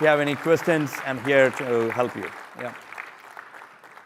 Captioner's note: applause